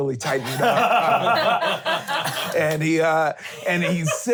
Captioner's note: laughing